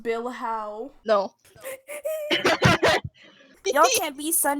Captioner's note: hffhffhee noise